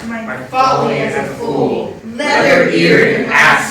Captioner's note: in Unison